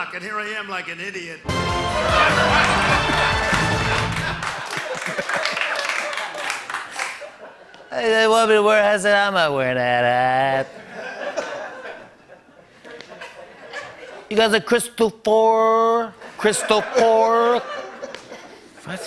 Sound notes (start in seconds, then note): 2.0 laughter; 4.4 laughter and applause; 10.6 laughter; 16.2 laughter